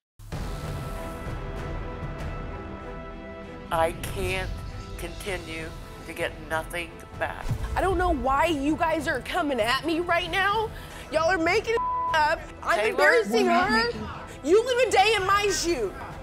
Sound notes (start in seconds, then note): 0.1 intense music; 11.8 beeping